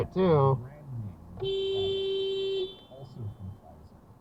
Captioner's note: beeeeep